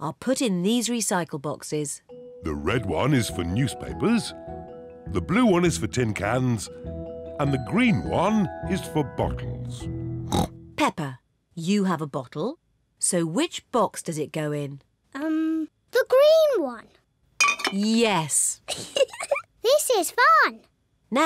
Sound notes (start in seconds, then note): 10.3 snorts; 18.6 giggles